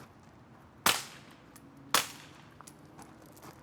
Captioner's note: gun firing